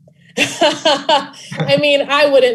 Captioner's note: Brit laughing